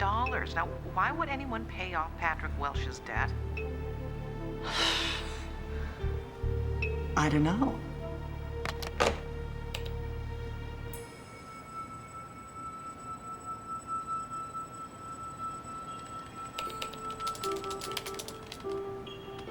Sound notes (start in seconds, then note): 4.6 exhales; 8.6 hangs up telephone